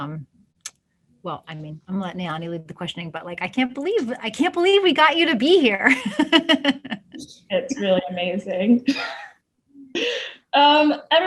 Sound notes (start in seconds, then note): 7.1 laughs; 10.1 chuckles